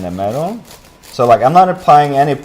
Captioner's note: sawing